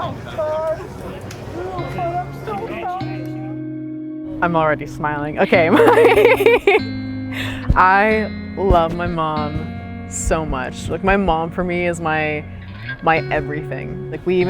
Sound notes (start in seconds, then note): 5.5 laughing